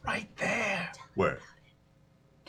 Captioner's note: whispering